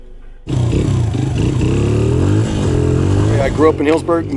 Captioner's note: motorcycle engine roaring